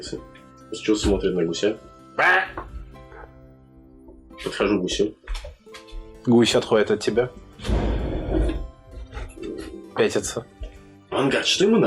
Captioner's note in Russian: звуки гуся